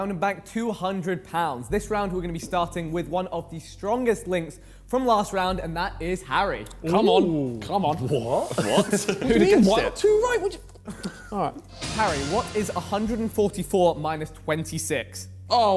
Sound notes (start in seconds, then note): 6.9 men exclaiming; 11.6 dramatic music